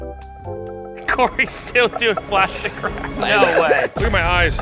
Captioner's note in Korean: 웃음